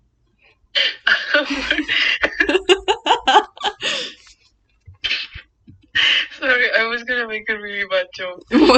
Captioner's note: both laughing; laughing